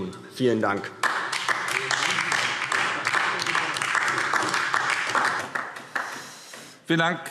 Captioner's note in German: Beifall DIE LINKE